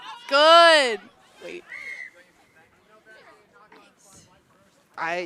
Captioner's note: whistle blows